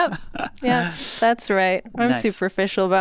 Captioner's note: chuckles